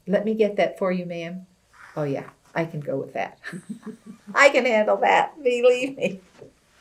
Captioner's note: laughter